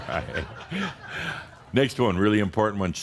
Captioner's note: Adamus chuckles